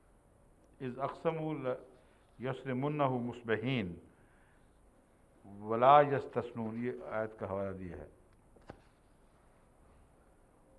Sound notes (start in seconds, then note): 0.7 Arabic